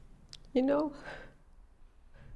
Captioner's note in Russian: на английском